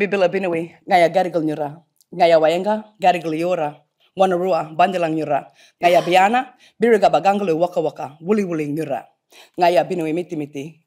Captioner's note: indigenous language spoken